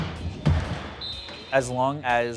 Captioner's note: whistle